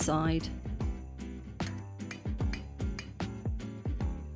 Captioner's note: metal tapping